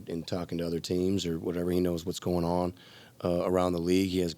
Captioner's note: none